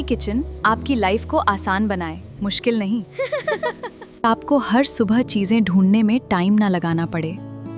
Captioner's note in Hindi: हंसी